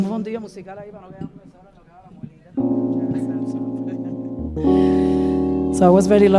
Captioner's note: speaking in Spanish